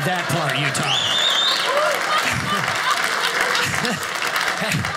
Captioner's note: audience laughing